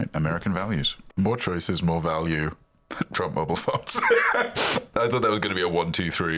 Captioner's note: laughs